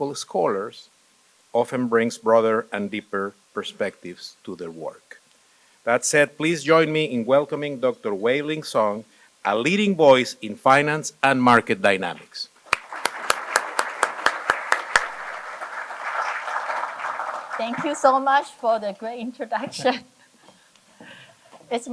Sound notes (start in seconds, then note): 12.6 applause